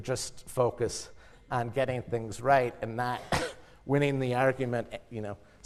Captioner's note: cough